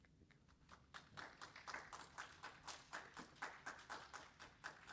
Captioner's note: audience applauds